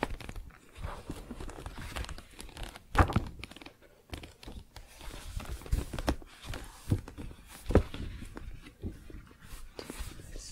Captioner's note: turning pages